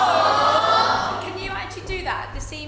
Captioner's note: aww’s from audience